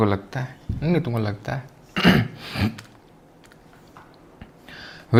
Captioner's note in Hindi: गला साफ़ करने की आवाज़; नाक से की जाने वाली आवाज़